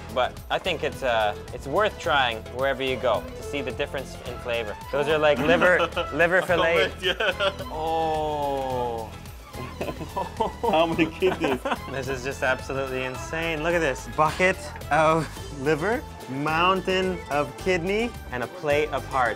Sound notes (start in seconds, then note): 5.2 laughing; 6.9 speaking foreign language; 9.6 laughing